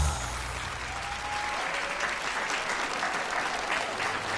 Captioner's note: audience applauding